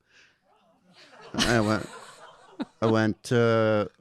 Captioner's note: audience laughing